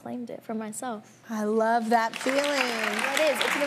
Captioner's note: audience applauding